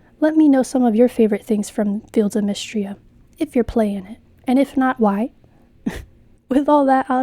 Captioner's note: laugh